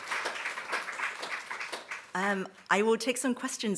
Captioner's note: applause subsides